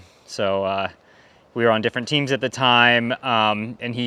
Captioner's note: none